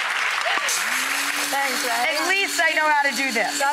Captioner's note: audience claps; grinder begins